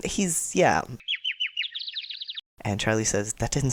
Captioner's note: dazed birds chirping